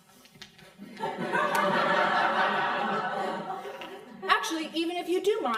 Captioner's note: crowd laughing